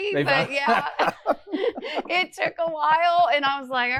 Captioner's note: laughs